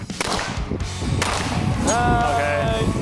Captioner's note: gun pops